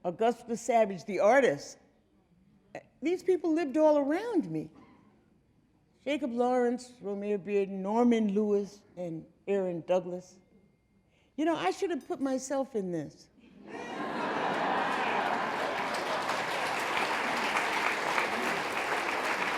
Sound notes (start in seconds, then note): 13.6 audience laughing; 16.2 audience applauding